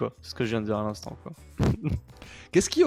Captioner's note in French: rigole